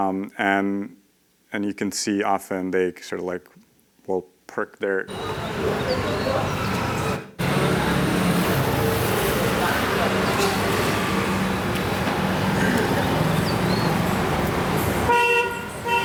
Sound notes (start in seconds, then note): 6.7 street noises; 15.1 horn honks